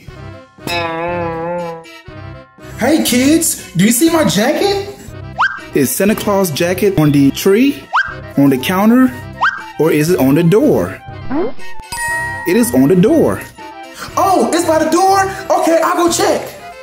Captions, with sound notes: (cartoon boing sound effect) Hey kids, do you see my jacket? Is Santa Claus jacket on the tree? On the counter? Or is it on the door? (bell dings) It is on the door. Oh, it's by the door? Okay, I'll go check.